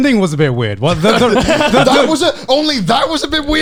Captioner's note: all laughing